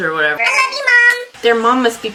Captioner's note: high pitched voice